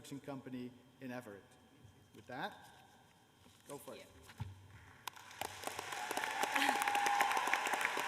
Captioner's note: cheers and applause